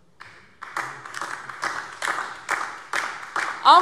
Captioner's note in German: Beifall DIE LINKE und vereinzelt SPD